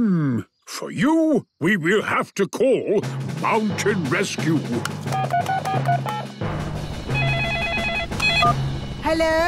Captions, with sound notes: - Hmm.... For you, we will have to call Mountain Rescue! (phone beeping) (phone ringing)